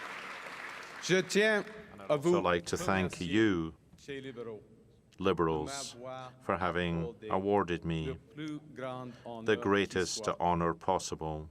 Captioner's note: cheering and Applause